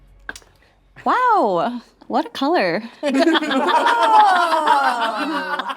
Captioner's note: all laughing